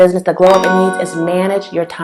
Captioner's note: bell sound